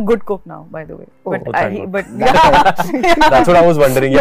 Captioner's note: laughs